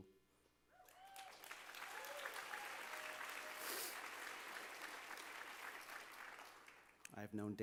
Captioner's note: applause